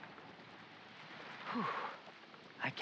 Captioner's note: exhale